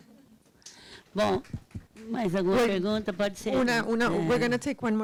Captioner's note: speaking Portuguese